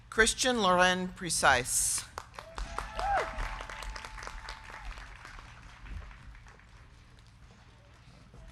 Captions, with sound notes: Christian Lauren Precise. (crowd cheering) (crowd clapping)